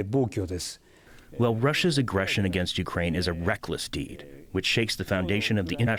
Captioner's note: through translator